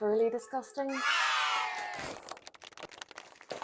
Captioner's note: applause